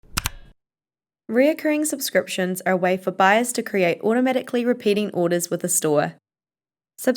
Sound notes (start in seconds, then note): 0.0 mouse clicks